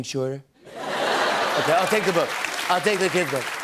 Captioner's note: laughter and applause